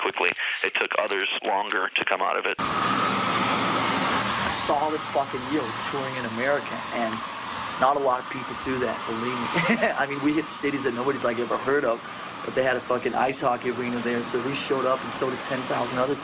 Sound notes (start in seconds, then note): 12.0 laughs